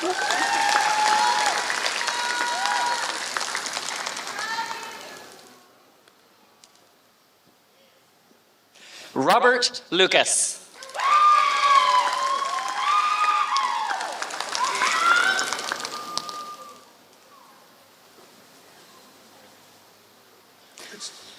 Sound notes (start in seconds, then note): 0.0 applause; 3.3 applause; 10.7 applause